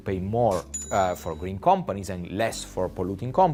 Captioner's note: cash register chiming